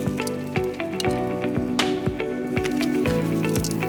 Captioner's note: sizzling